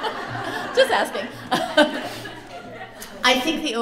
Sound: laughter

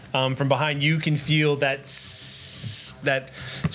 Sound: sizzle noises

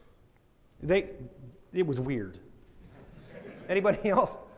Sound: audience laughing

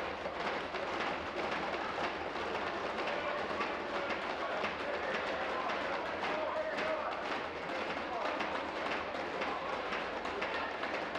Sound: tapping on desks

